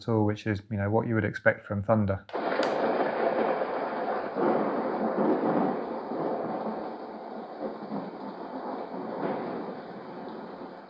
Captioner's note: sound of thunder playing